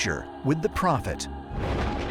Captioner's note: thunder